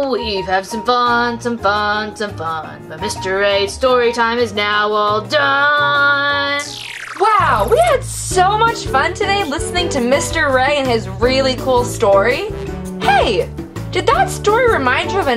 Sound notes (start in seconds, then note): 7.4 voiceover